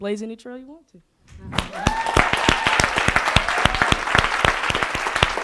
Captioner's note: audience applauding